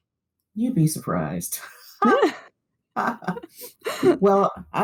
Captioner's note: laughter